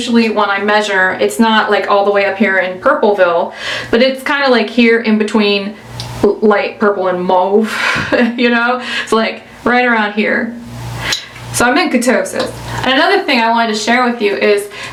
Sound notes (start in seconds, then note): 7.8 laughs